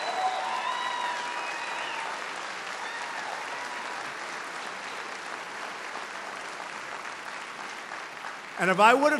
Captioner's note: applause